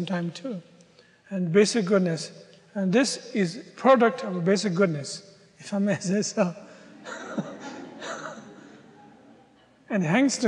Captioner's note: audience laughter